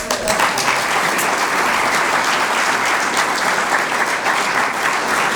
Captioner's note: applause